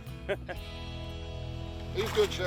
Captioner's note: chuckles; guitar music ends